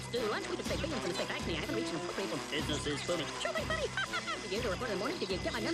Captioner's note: talking at high speed